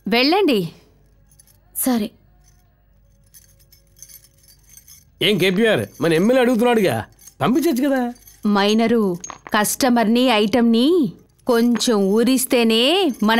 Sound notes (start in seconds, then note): none